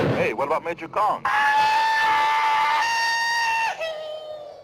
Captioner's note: shouting